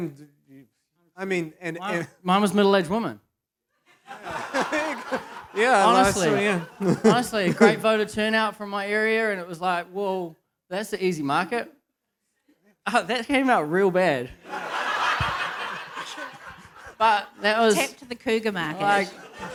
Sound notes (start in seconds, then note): 4.0 laughter; 14.4 laughter; 14.6 chuckles